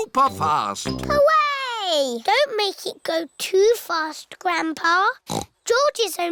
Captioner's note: snorts